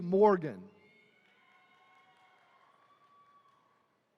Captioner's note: attendees cheering